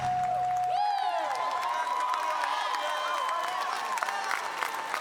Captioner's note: all cheering